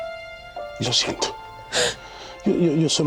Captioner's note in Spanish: sollozos